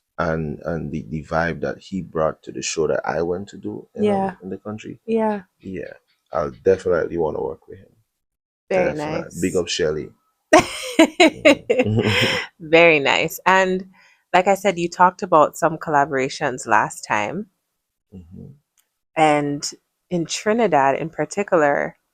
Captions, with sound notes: and and the the vibe that he brought to the show that I went to do in the country. Yeah. Yeah. I'll definitely want to work with him. Very nice. Big up Shelly. [laughter] [gasps] Very nice. And like I said, you talked about some collaborations last time. Mhm. And in Trinidad in particular,